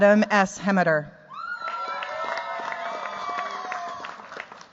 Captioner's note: cheers, applause